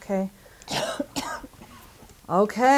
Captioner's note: coughing